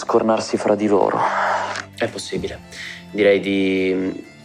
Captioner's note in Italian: Sospira